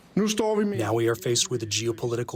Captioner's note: through translator